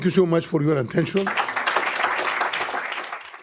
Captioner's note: applause